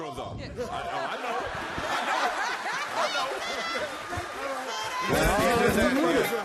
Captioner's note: laughs; applause; drums playing